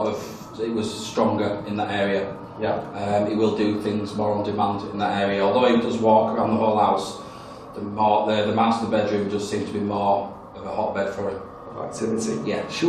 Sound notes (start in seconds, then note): none